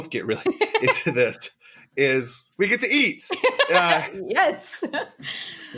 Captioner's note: laughs; laughs again